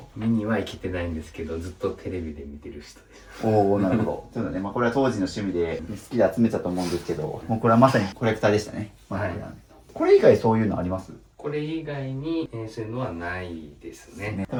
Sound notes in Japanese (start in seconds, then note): 7.2 鼻息